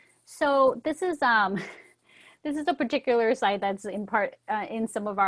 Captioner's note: chuckles